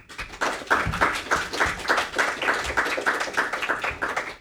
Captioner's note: audience applauding